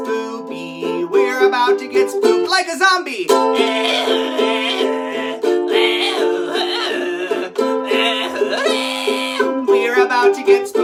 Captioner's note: zombie Noises